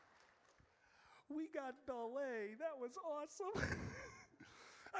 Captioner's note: chuckle